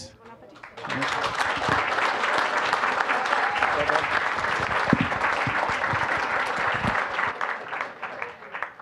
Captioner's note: applause